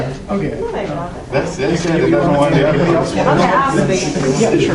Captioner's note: classroom chatter